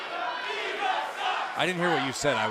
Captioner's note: fans chanting